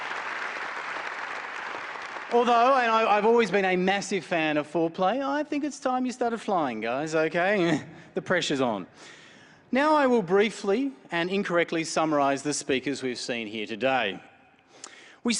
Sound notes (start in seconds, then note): 7.5 chuckles